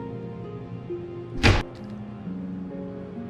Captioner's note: door Opens